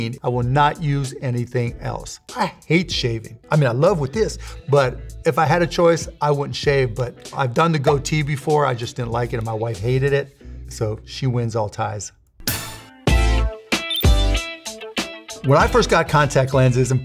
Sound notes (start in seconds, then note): 12.4 upbeat music; 13.8 beeping; 14.7 upbeat music